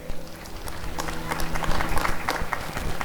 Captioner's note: applause and cheering